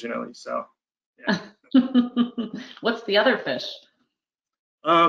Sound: laughs

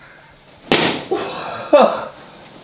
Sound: coughs

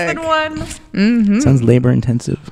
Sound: laughs

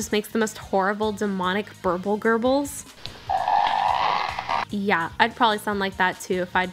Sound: evil sounds

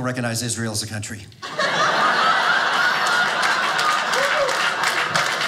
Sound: audience laughing; audience applauding

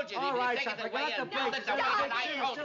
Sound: arguing

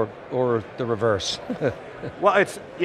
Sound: chuckles

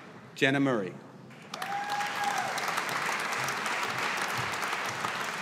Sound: audience applauding

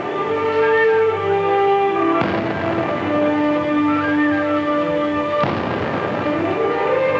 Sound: bright music; booming continues

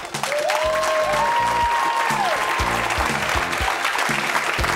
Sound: cheering and applause

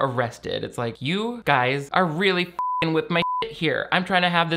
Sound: beep

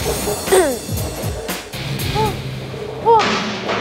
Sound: breathing slowly

